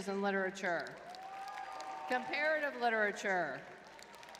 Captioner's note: crowd cheering